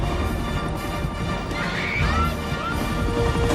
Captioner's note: screaming